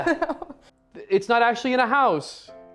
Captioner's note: laughs